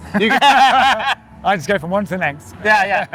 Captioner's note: laughing